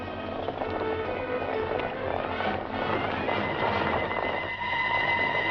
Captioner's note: hooves clattering; dramatic music